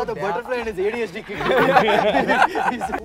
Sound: laughter

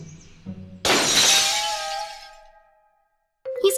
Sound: shatter

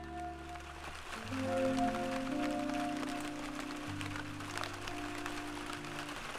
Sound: rain falling

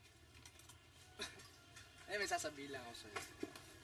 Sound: chuckles

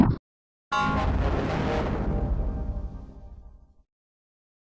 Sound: 10-Eyed Devil Windows XP Shutdown Sound

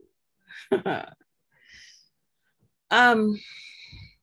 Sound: chuckles

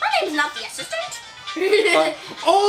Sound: chuckles

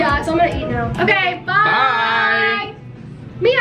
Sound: in Unison

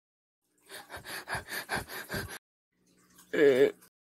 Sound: panting

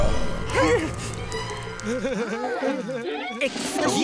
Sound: laughing

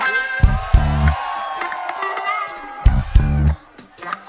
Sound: audience cheers

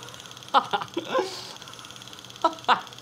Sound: laughs

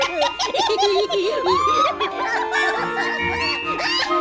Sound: hysterical laughing

